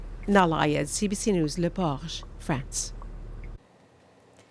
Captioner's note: speaking french